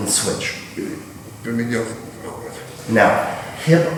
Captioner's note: speaking in a foreign language